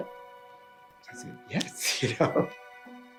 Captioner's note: chuckles